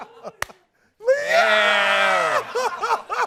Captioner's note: shouting